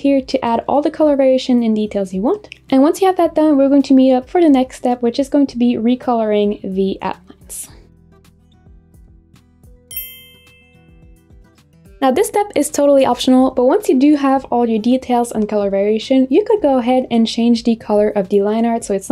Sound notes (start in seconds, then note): 9.9 bell chimes